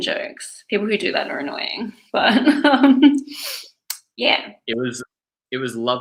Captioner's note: laughs